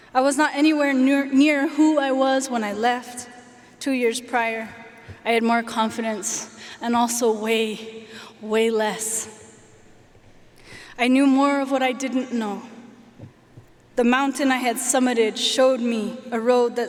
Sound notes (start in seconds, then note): none